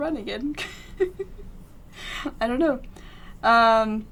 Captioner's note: laughs